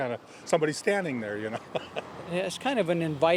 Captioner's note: laughs